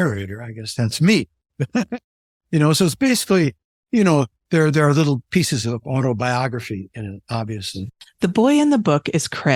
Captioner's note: laugh